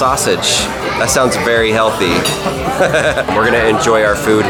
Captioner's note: laughs